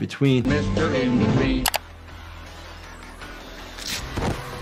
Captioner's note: upbeat music; mouse clicking; blade rasping; body thudding